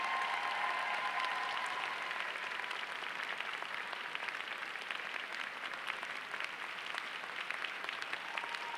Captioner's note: applause